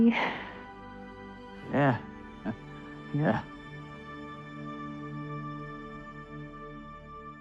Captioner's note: chuckles